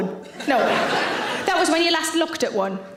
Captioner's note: audience laughs